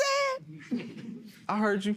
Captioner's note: crowd murmurs